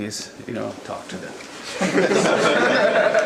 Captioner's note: audience laughter